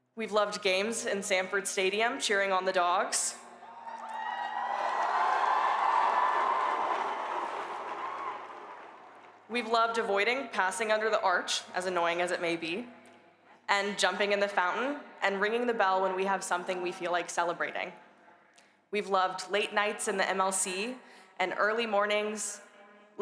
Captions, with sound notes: We've loved games in Sanford Stadium, cheering on the Dawgs. [STUDENTS CHEERING, BARKING] We've loved avoiding passing under the arch, as annoying as it may be, and jumping in the fountain and ringing the bell when we have something we feel like celebrating. We've loved late nights in the MLC and early mornings--